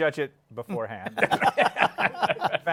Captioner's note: laughter